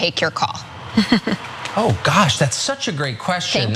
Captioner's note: laugh